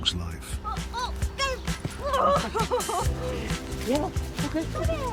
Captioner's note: laughs